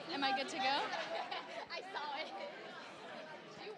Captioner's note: chuckles